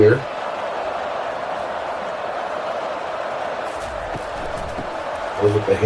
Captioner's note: crowd Noises